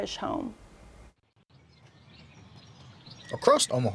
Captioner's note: birds twitter